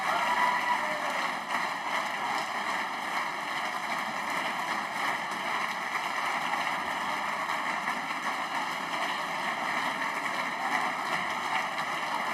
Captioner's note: applause